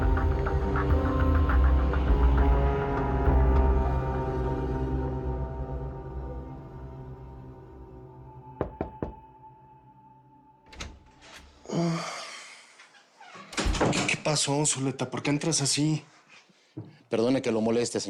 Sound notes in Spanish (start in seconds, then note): 8.6 Toques en la puerta